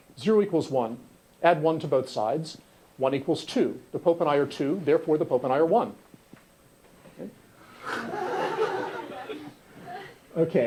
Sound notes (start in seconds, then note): 7.8 laughter